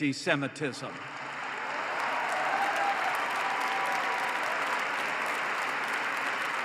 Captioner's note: applause